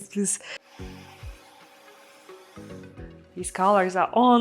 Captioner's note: blower humming